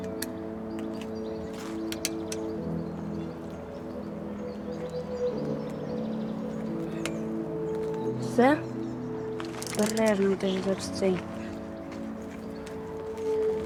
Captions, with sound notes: - That's all? - That's all? [Sound of a wrench] - Be careful.